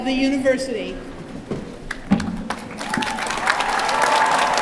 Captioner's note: applause